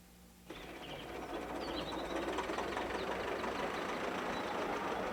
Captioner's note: engine rumbling